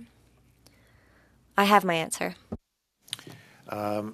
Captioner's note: speaking French